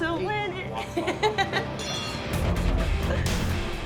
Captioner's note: laughter